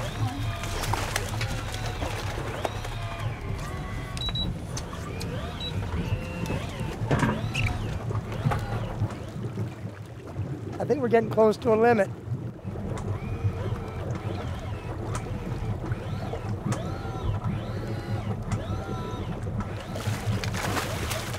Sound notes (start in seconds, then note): 0.3 fish splashing; 4.6 beep, beep